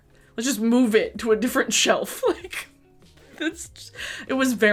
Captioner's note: chuckles